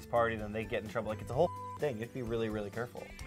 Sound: beep

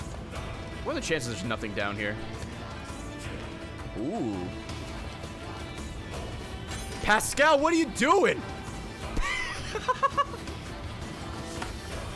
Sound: laughs

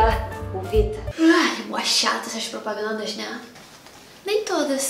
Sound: yawns

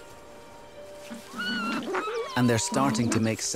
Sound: squeals, purrs

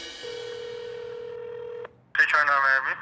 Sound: phone ringing

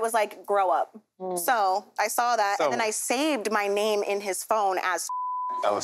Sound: beep

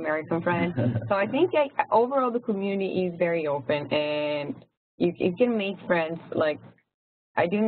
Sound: laugh

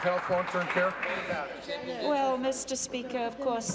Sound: applause

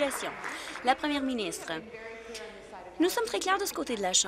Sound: applause

